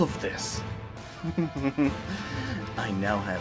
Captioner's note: laughs